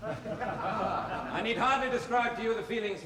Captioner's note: laughter